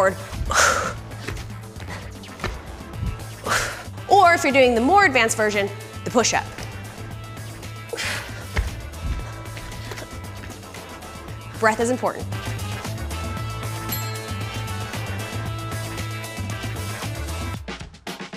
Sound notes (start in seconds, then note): 0.2 exhales loudly; 8.5 exhaling loudly; 13.8 bell dings; 13.8 lively keyboard music